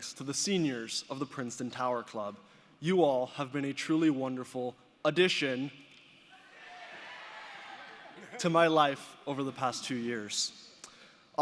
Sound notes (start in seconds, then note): 6.4 audience shouting